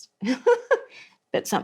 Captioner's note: laughs